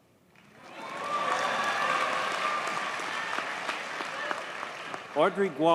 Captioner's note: audience cheers and applauds